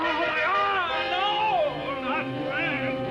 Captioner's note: suspenseful music; Kurt cries out; suspenseful music